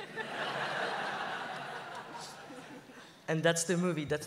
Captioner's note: laughs